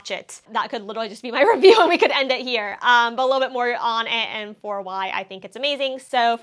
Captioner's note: laughs